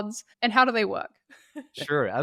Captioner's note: laughing